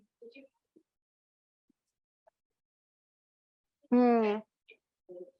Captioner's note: student quietly talking